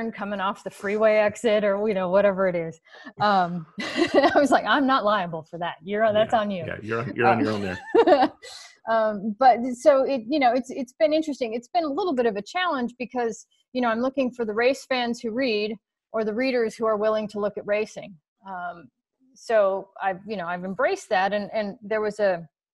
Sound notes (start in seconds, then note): 6.6 chuckles